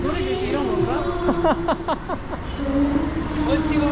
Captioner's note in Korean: ㅋㅋㅋㅋㅋㅋㅋㅋㅋㅋ